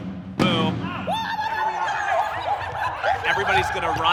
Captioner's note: kids yell monkey noises